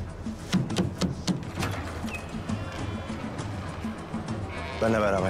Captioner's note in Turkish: Kapı Vurma ve Kapı Gıcırtısı Sesleri